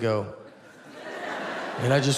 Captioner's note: audience laughs